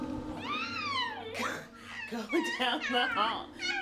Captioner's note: laughs; vocalizes